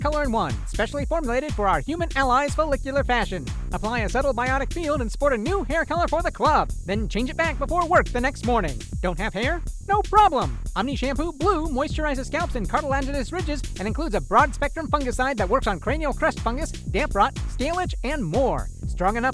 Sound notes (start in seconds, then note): none